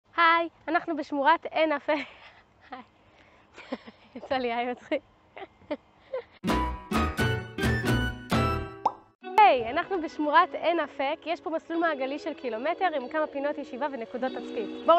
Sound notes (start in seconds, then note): 2.0 laughter